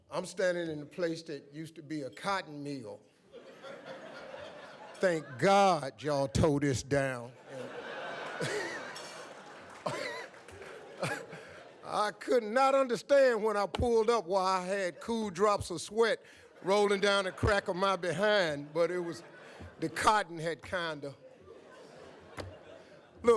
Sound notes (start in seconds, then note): 3.3 audience laughs; 7.4 laughs